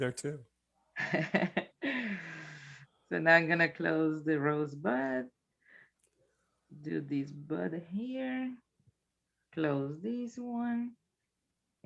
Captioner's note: chuckles